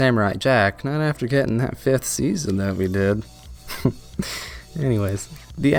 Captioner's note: laughter